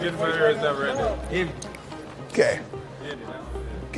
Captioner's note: finger snaps